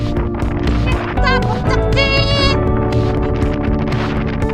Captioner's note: beep beep~